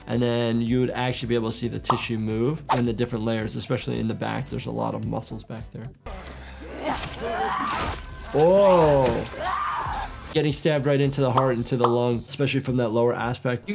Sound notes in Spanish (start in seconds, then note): 6.1 Senua gruñe; 7.9 enemigo gruñendo; 9.6 Senua gritando